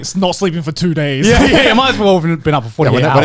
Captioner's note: chuckling